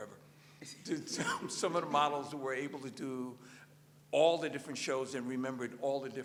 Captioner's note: laughter